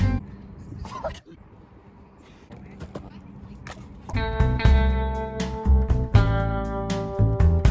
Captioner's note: shoe thwacking into human